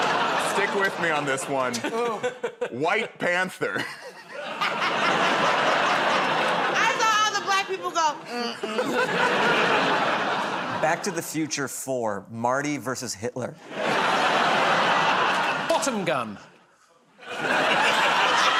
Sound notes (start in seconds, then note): 0.0 laughter; 8.6 laughter; 13.6 laughter